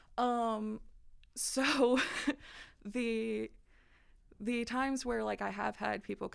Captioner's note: laughter